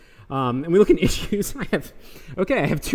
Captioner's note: laughing